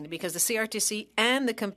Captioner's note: speaking French